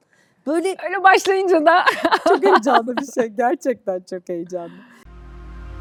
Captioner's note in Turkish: kahkaha